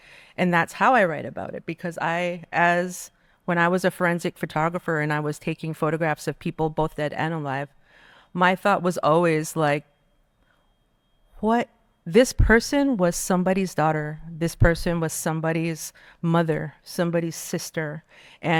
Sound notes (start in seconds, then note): none